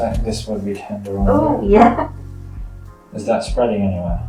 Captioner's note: chuckles